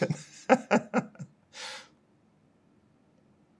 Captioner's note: laughing